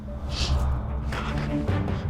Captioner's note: sniffs; gasps